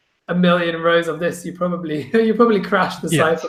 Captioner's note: snickers